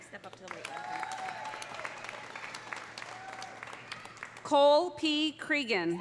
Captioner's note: audience applauding; audience cheering